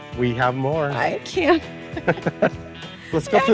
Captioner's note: laughs